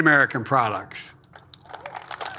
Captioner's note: applause